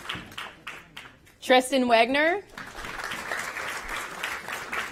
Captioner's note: applause